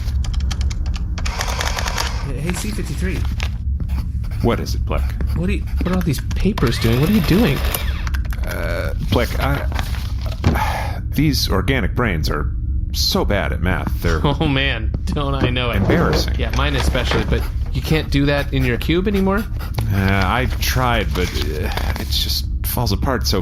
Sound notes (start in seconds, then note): 9.4 sighs; 14.0 laughing